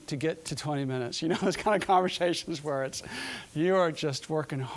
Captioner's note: laughing